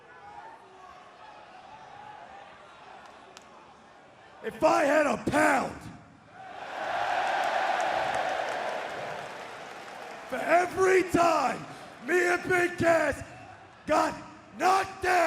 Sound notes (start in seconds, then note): 0.3 crowd chatter; 7.9 crowd cheering